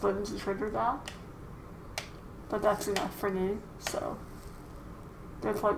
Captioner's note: R2 clacking